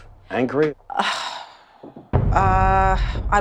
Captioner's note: sighs